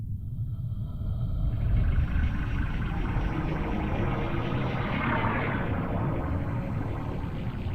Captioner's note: eerie blue space noises